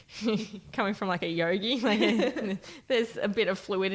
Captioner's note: laughing